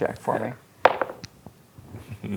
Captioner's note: dice rolling